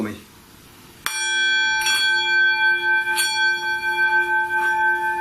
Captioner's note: bowl dings